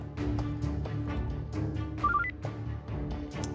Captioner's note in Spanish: suena el celular